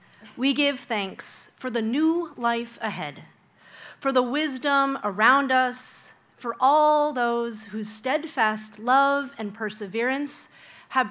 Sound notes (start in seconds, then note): none